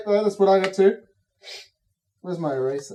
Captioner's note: Cataliss sniffs